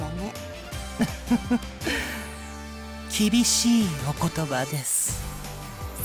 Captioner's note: chuckle